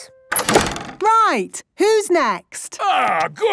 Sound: doors slamming

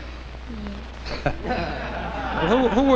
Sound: laughter

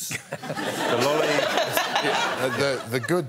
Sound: laughter

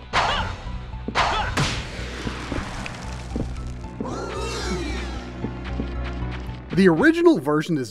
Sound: game audio

